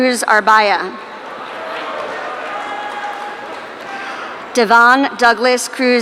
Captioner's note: audience cheering